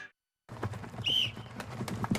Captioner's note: whistle blows